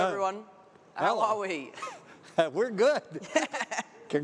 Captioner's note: laugh